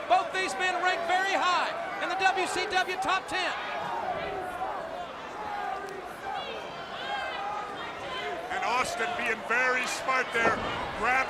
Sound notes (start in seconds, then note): 4.2 crowd cheering